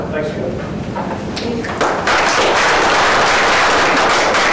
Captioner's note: class applauds